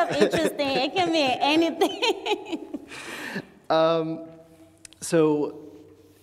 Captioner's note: laughs